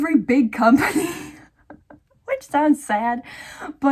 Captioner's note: wheeze